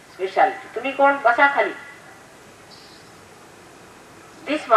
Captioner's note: Here Mother speaks in Hindi